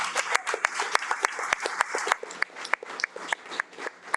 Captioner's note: audience applauding